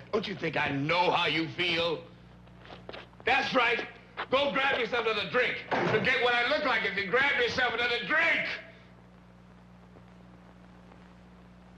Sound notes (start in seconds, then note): 2.1 footsteps banging; 5.7 door slamming